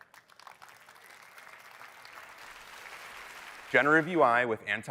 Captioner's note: audience applauding